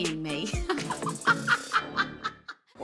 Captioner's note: laughing